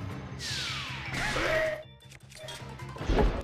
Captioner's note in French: cri de Kohga